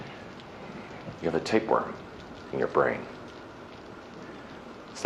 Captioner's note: thunder roaring